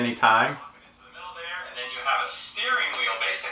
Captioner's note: voiceover